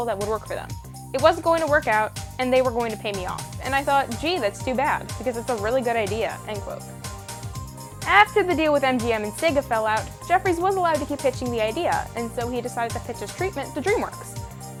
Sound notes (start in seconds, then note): none